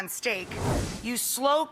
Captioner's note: air whooshing